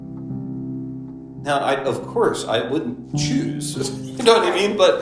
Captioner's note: laughs